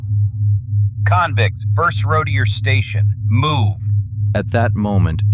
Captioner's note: commanding